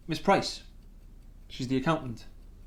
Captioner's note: none